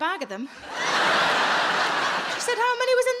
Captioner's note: audience laughing